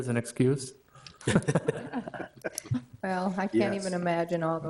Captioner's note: all laugh